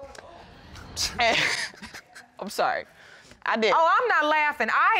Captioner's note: chuckling